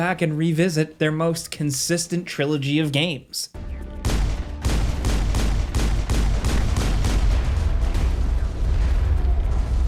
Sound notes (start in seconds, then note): 4.0 guns shooting